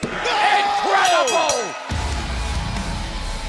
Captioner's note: bell ringing